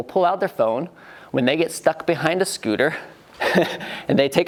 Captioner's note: laughs